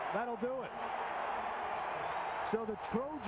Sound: cheering, applause

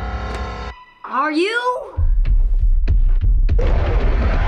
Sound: Mrs. Kersh stomping

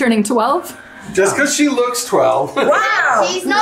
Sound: laughs

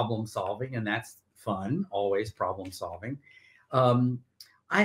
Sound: none

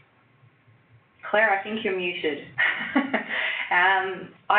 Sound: chuckles

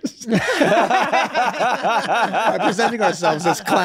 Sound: all laughing

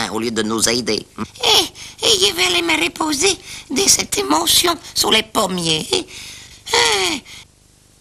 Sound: sighs

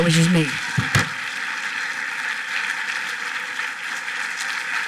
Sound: applause

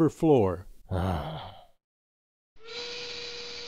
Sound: grumbles; steam whistle blows

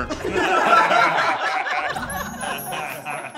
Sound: laughing; chimes tinkling

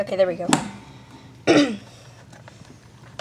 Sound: clears throat

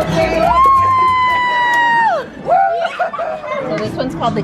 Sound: cheering

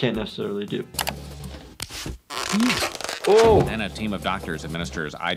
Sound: Mr Burns grunts; roller rolling

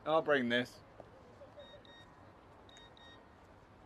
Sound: beeping

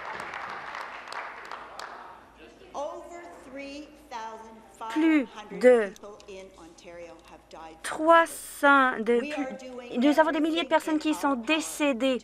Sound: applause

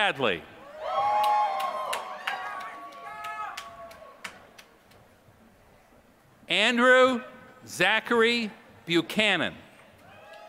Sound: applause; applause

